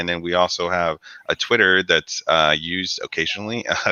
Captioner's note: laughs